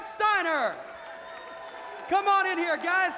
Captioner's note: crowd cheering